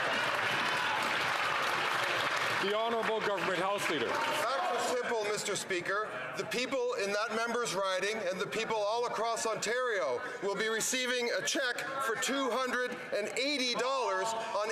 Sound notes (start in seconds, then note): 2.5 some Applause